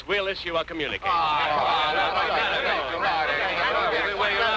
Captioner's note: reporters clamoring